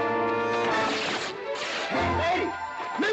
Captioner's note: cloth tearing